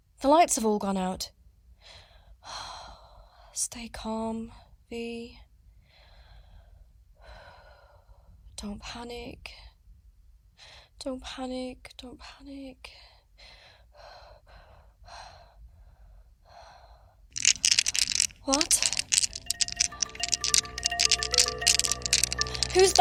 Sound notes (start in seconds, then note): 15.4 skittering